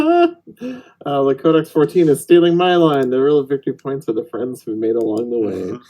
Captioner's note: laughing